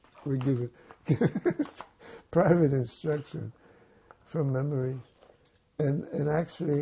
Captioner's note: laughing